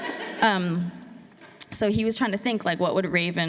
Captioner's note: laughter